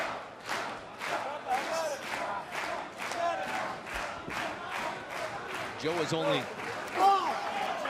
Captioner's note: crowd cheering